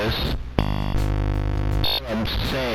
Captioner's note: glitching noise